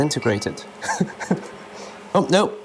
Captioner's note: chuckles